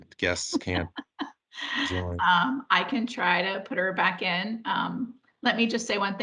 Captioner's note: laughs